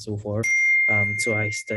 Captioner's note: bell ringing